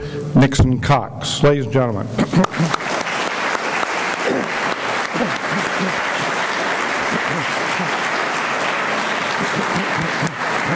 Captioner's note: clapping